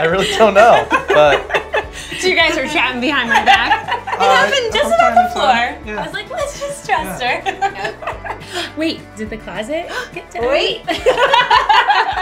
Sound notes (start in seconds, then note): 0.0 laughing; 6.0 laughs; 8.7 gasps; 10.9 laughs